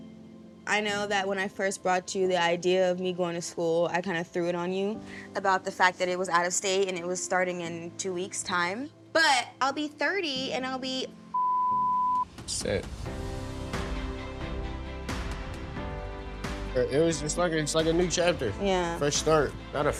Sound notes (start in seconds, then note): 11.3 beep